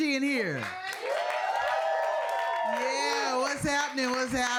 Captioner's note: audience cheering